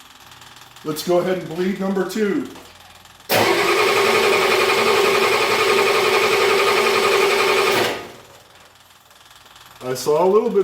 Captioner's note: engine cranking